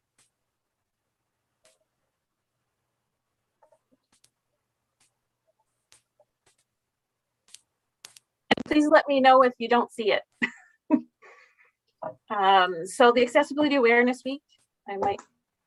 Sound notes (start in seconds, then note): 10.4 laughing